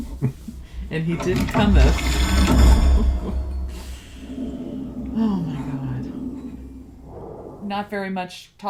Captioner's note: laughs; laughs